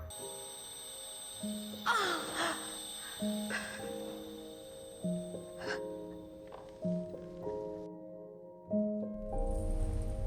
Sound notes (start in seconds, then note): 0.1 June's ears ring; 3.5 June exhales shakily